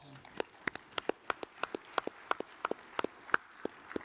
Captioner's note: audience applauds